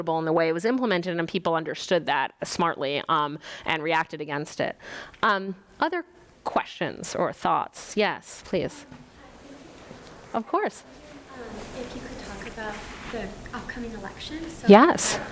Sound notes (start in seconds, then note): 9.0 student mutters